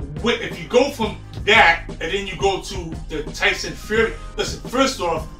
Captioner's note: stutters